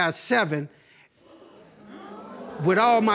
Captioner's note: audience gasping